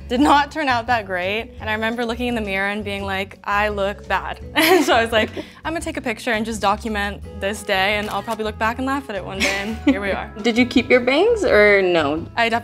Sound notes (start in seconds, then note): 8.3 camera shutter clicks